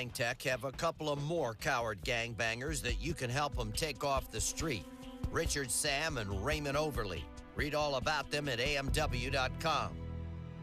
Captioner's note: speaking spanish